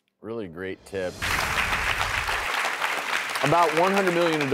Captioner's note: audience applauds